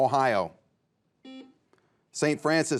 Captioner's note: buzzer beeps